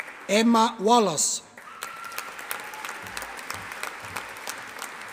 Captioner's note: audience applauding